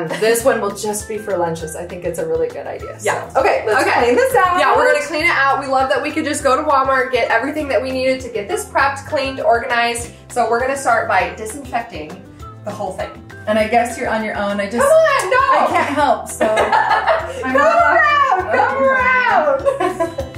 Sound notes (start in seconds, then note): 15.5 women 2 laughing; 20.1 bright jolly music